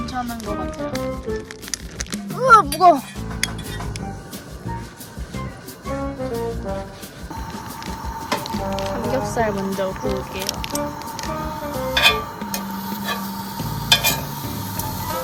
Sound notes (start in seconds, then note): 4.7 scrubbing the new frying pan